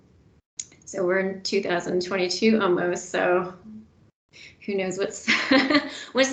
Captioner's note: laughs